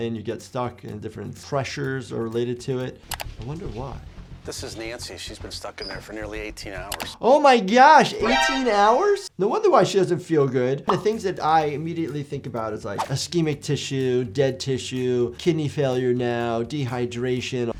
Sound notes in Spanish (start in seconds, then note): 3.1 clic del mouse